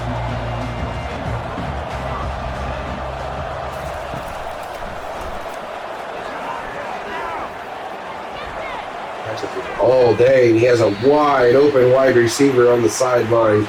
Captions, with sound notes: [Crowd Noises] All day, he has a wide open wide receiver on the sideline.